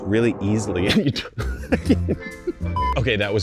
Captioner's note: laughs